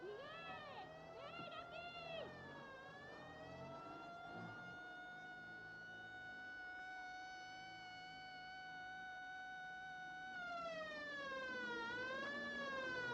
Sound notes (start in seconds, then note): 2.9 police siren